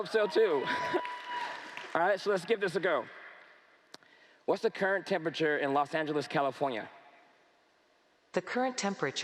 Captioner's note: cheers & Applause